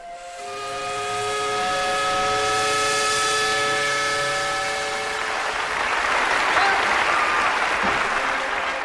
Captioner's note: steam whistle; marching band music